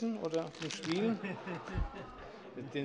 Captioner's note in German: Heiterkeit